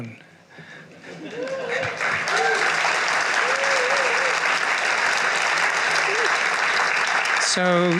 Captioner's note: cheering and applause